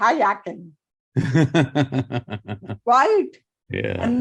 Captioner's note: laughing